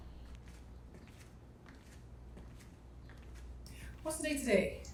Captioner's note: footsteps tapping